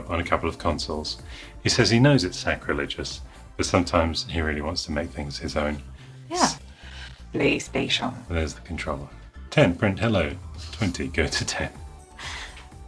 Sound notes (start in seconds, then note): 7.6 robotic Voice